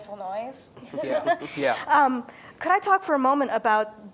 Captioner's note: laughs